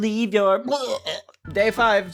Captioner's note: hurls